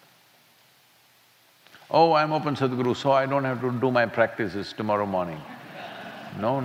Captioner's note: laughter